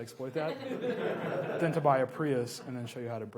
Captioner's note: laughs